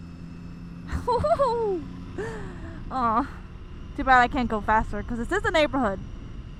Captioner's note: giggles